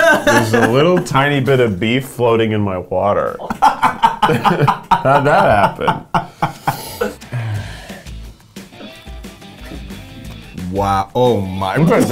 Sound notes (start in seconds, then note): 3.4 laughing; 7.6 catchy music